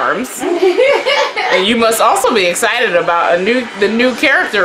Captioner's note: sister laughs off camera